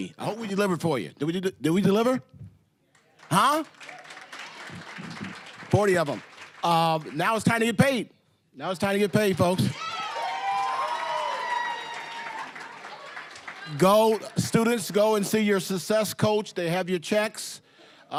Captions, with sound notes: I hope we delivered for you. Did we deliver? Huh? (applause, cheering) >> 40 of 'em. Now, it's time to get paid. Now, it's time to get paid, folks. (applause, cheering) Go-- students, go and see your success coach. They have your checks.